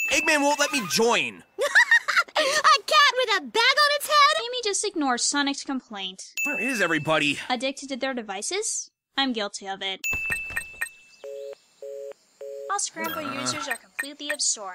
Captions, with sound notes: Eggman won't let me join! (laugh) A cat with a bag on its head? Where is everybody? (beeping) (busy signal)